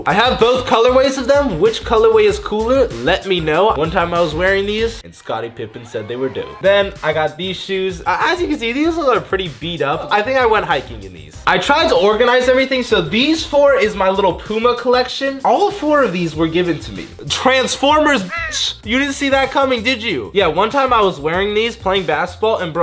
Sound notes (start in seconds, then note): 18.2 bird caws